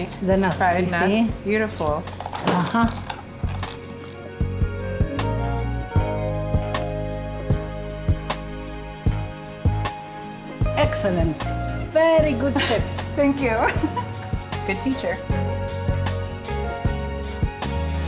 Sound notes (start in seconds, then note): 3.6 light music; 14.2 laughs; 15.4 light music